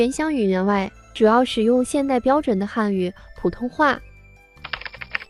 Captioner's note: Mandarin